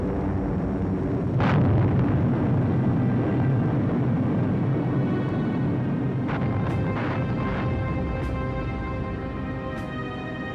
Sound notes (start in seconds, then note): 0.2 bombs booming; 2.9 somber pensive music